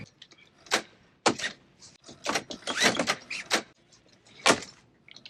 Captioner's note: seatbelt rattling